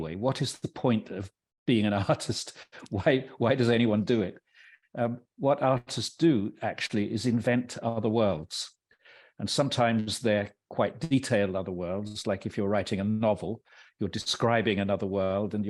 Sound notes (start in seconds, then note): 2.9 laughing